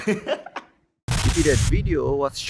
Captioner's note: Glitch